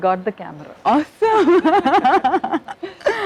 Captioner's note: laughs